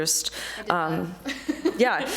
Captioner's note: laughs